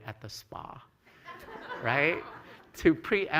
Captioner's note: laughter